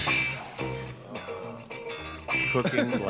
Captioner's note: exhaling